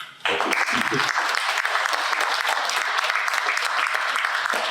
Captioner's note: applause